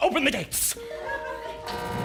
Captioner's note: Amazon Alexa sound again; buzz